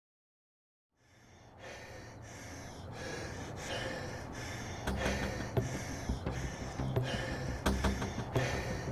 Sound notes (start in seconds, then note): 1.0 breathing heavily; 5.0 dramatic music plays